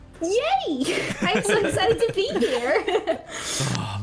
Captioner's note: laughter